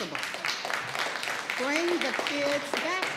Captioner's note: audience applauds